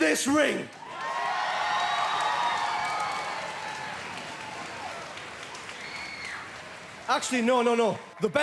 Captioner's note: cheering